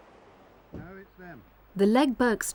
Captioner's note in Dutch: man mompelt